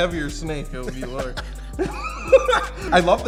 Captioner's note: laughs